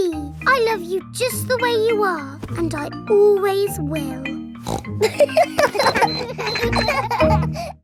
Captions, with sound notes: Teddy, I love you just the way you are, and I always will! -(SNORTS) -(KIDS LAUGHING)